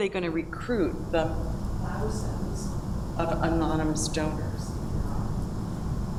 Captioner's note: speaking away from microphone